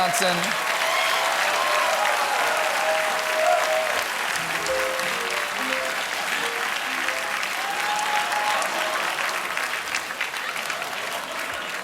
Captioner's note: applause